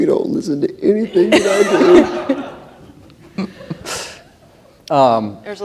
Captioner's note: laughter